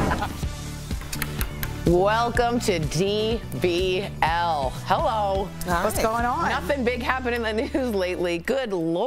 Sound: laughter

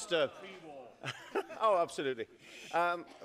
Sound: laughter

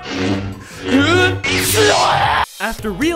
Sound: screaming in pain

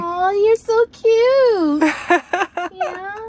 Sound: laughing

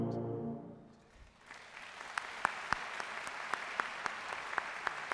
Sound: audience applauding

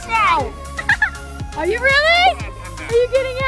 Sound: laughs

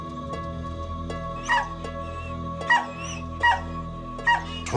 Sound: dog barking

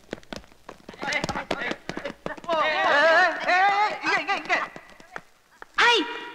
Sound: indistinct Voices

